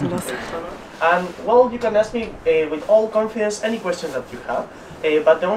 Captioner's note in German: auf Englisch